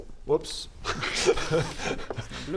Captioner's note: nervous laugh